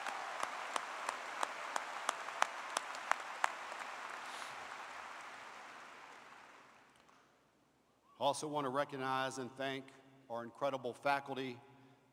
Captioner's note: applause